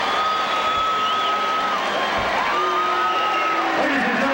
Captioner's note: crowd cheering